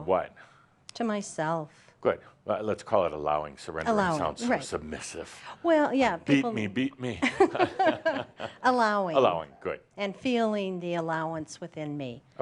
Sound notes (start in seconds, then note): 7.2 they laugh